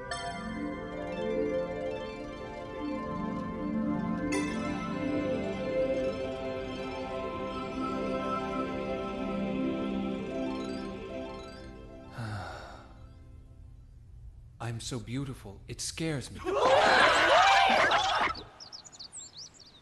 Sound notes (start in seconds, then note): 12.1 sigh; 18.3 birds chirping